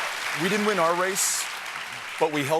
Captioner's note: applause